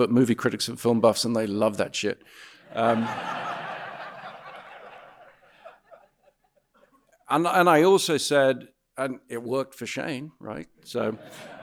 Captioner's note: audience laughing